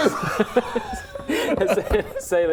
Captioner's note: lame laughter